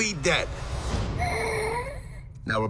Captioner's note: scandalised gasp